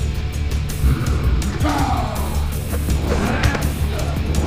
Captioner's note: Bolo grunts